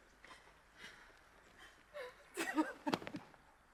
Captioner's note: Mabel sobs